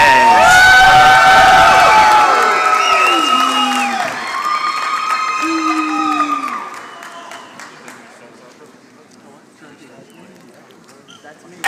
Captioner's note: applause